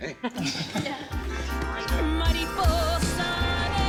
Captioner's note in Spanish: Risas